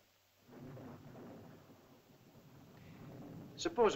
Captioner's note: thunder rumbles in distance